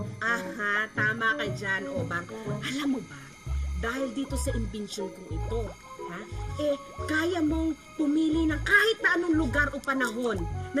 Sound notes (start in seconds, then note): none